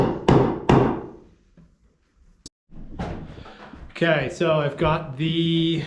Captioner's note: banging